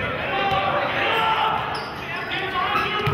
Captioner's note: yelling